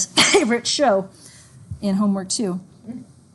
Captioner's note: sneezes